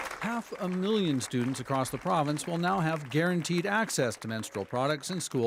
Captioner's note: cheers and applause